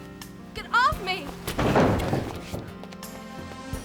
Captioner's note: thudding